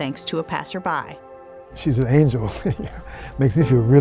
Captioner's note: laughing